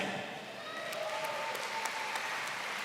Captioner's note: applause